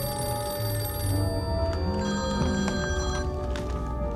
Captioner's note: ringing stops